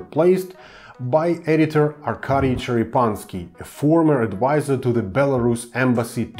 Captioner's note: russian